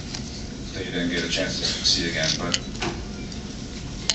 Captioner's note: knocks on chair arm